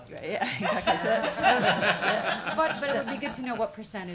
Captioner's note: laughing